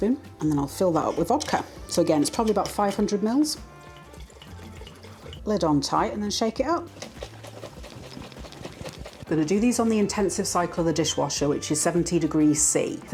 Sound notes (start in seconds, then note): 3.5 liquid glugging; 6.8 liquid sloshing